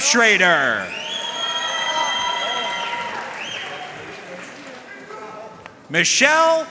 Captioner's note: audience cheering and applauding